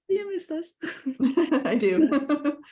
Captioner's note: laughs